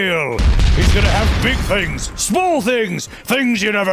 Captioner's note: explosions